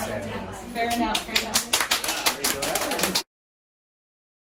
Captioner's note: applause